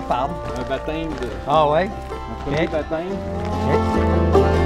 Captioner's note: chatter